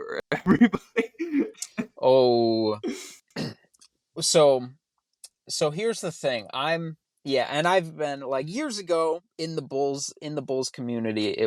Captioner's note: groans; laughs